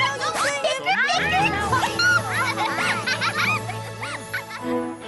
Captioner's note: arguing continues